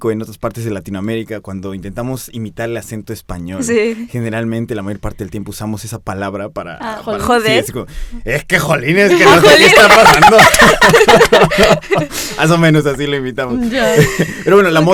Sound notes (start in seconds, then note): 11.9 laughing